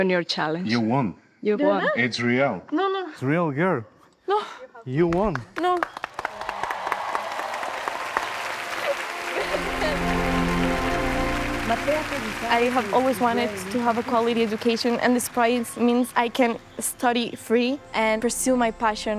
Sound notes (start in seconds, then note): 9.0 audience applauding and cheering